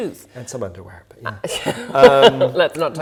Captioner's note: laughing